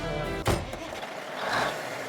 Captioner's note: car engine starting